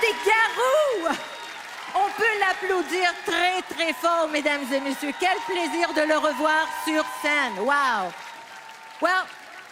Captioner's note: applause